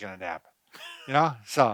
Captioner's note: laughing